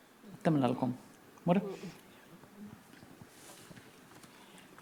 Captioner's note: speaking Anmatyerr